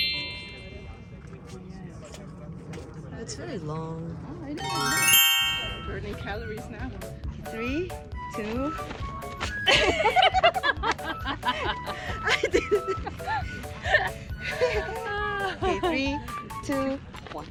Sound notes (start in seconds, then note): 9.6 laugter